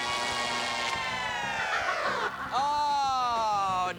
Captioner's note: wicked laughter